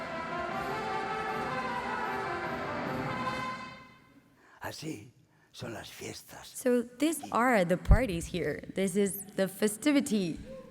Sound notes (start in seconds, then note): 2.6 speaking spanish